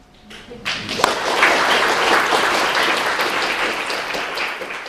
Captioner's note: applause